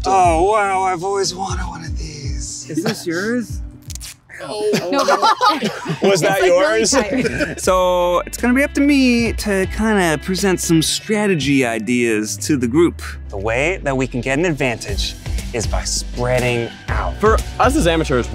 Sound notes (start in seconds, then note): 4.3 laughing